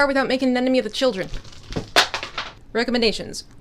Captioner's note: clattering